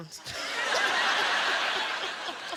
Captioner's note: laughs; laughter